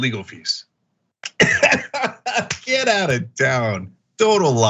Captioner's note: laugh